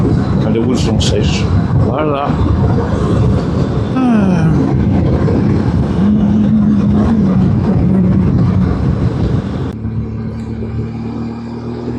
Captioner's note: engine